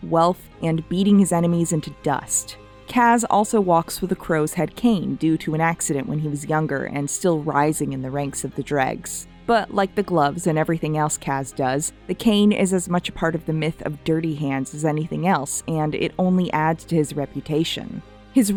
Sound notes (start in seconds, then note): none